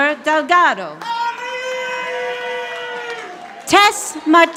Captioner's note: audience applauding